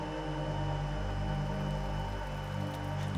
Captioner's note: water pattering